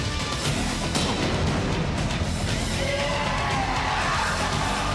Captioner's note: fire explodes